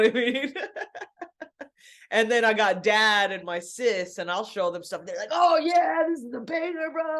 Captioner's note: laughs